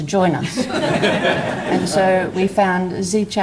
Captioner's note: audience laughs